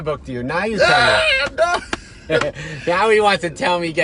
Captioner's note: laughing